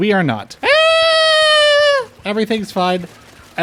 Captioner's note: screaming